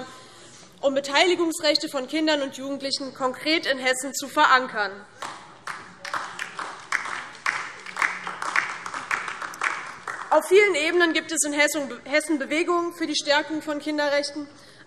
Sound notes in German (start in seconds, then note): 5.2 Beifall DIE LINKE